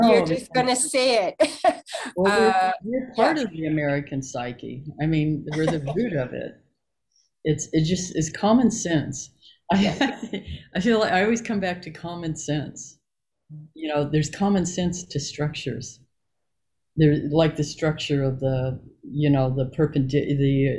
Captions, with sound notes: You're just gonna say it. - Although, we are part of the American psyche, we're the root of it. It's just is common sense. (laughing) I always come back to common sense. There's common sense to structures. Like the structure of the perpendicular